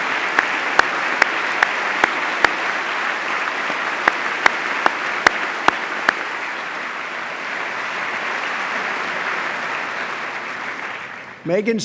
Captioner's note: applause